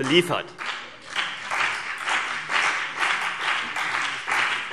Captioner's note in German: Beifall CDU und BÜNDNIS 90/DIE GRÜNEN